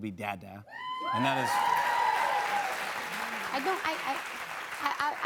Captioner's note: cheers and applause